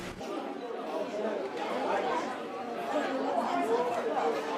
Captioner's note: all chattering